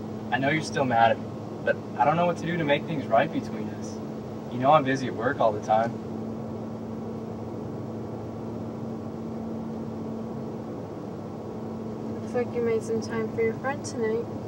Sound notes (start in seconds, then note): none